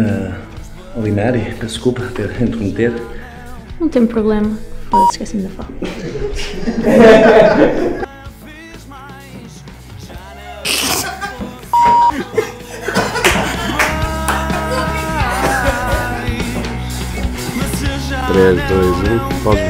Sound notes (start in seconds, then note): 17.4 voices in the background